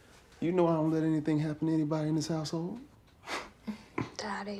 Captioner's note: chuckles